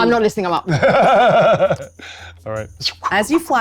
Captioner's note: laughs